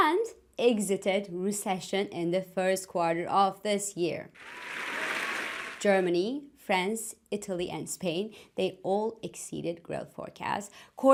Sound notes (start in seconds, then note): 4.4 applause